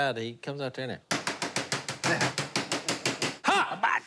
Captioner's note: imitating hibachi chef